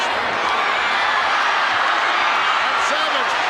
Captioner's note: audience cheering